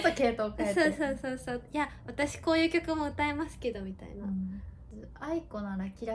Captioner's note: laughs